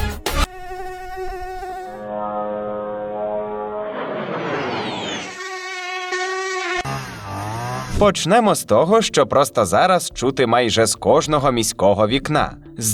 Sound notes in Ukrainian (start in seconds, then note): 0.4 звук комарів; 2.1 звук шахеда; 3.8 звук крилатої ракети; 5.3 звук мух; 6.9 звук траво-винищувалки